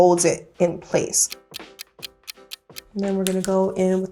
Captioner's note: ticking